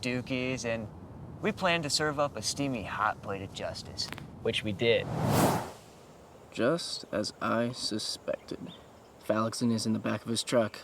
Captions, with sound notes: and we plan to serve up a steamy, hot plate of justice. [neck cracks] Which we did. Just as I suspected. Phallicson is in the back of his truck.